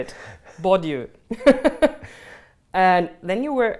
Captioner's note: laughs